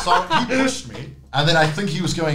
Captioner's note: laughing